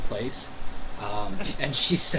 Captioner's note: chuckling